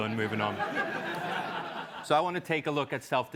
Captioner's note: laugh